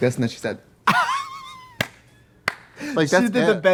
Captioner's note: Katya laughing